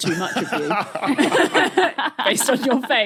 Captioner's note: group laughing